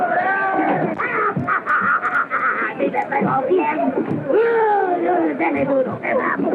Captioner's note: speaking portuguese